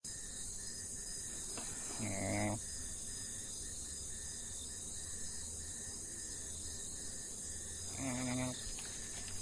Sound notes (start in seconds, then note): 0.0 rainforest sounds; 5.4 grumbling noise